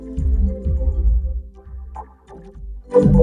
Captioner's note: Gloink boinking softly